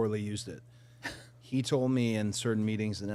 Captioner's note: participant chuckling